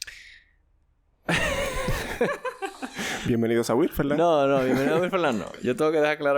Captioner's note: laughs